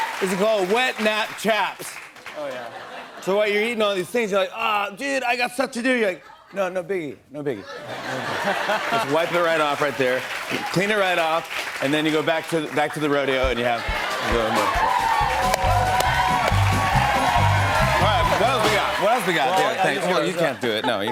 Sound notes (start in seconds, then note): 0.0 cheers and applause; 2.4 laughter; 8.0 laughter and applause; 14.4 cheers and applause